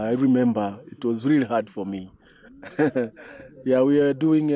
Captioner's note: laughs